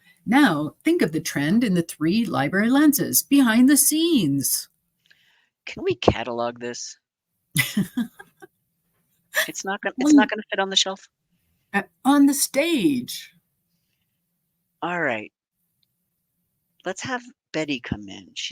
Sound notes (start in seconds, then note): 7.5 chuckling